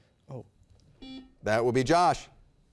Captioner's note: buzzer beeping